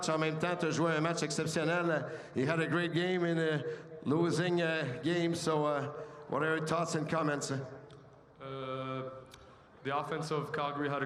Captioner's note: speaking French